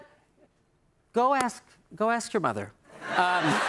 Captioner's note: laughter